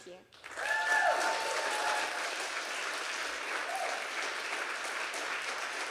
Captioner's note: audience applauding and cheering